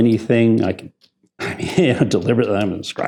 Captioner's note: laughs